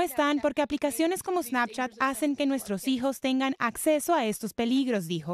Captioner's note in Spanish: HABLA EN INGLéS